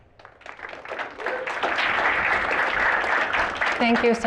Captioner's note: applause